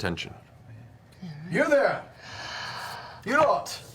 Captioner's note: gasps